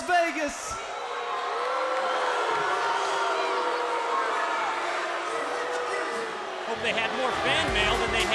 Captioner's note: crowd cheering